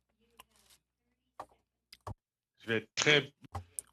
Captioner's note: speaking french